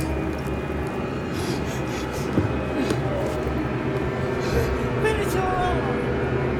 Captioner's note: foot thudding; Dorothy gasping; tense music